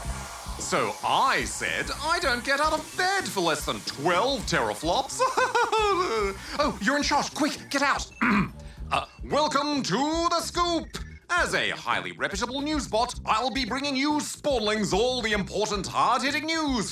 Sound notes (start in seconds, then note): 5.1 laughs